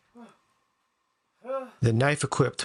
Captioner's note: grunt